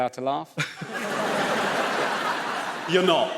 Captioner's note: audience laughs